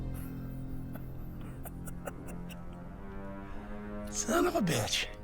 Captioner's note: Dutch chuckling